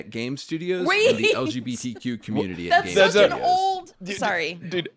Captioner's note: laughing